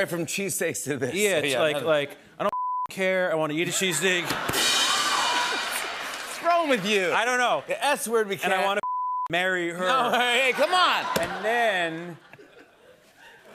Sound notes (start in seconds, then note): 3.6 laughter